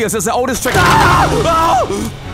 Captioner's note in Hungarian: Sikoly ijesztő jump scare